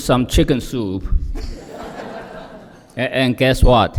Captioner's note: laughter